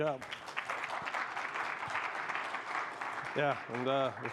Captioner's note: applause